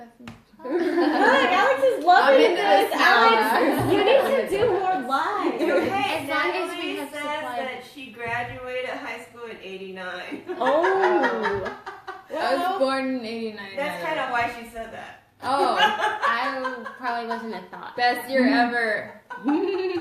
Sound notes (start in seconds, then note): 10.5 laughs; 19.2 laughs